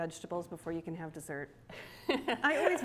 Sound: laughs

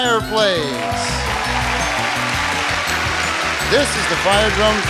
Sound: audience applauding

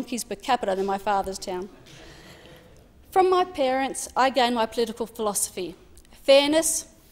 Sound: laughter

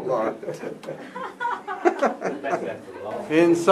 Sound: all laughing

